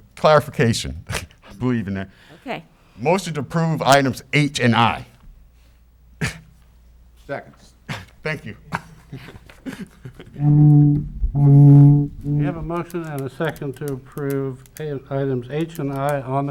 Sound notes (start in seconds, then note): 8.3 laughter